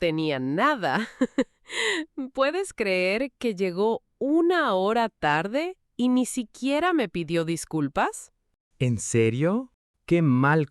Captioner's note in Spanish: risas